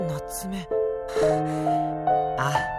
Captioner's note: bemused sigh